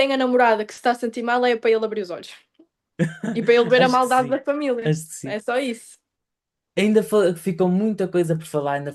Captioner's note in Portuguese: risadas